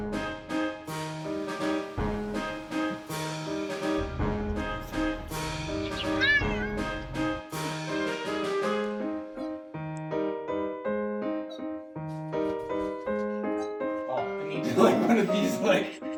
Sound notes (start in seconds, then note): 5.7 embarrassed cat noises